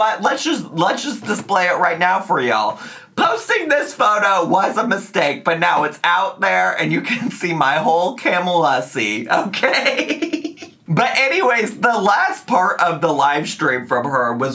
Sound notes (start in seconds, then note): 9.4 laughs